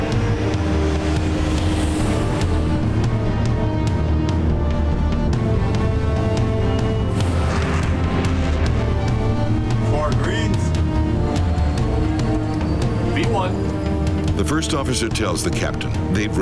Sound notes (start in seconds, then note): 7.6 jet engine humming